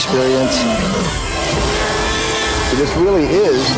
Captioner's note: dinosaur roaring